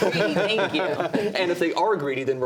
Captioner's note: laughter